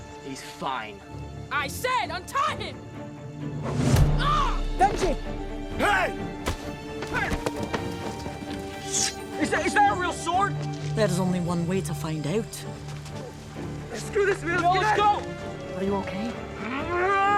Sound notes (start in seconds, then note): 4.0 Benji yelling; 4.0 slingshot whooshing; 8.8 sword whooshing; 17.0 Eddie yelling